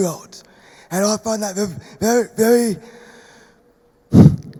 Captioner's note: sighs